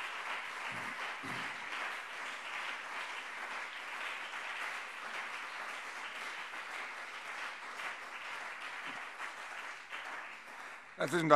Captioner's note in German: Anhaltender Beifall CDU und BÜNDNIS 90/DIE GRÜNEN